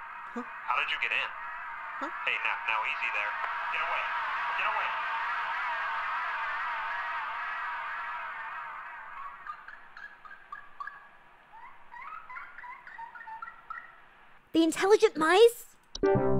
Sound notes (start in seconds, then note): 0.0 spooky noises approach; 5.1 spooky noises intensify; 8.0 squeaking